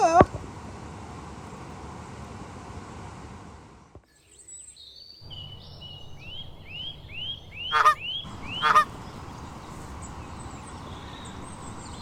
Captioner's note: bird and duck noises